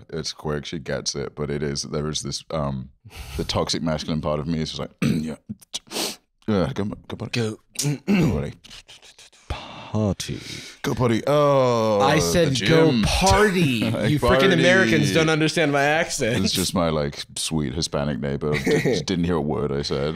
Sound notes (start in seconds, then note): 5.0 clears throat; 7.8 clears throat; 9.5 quietly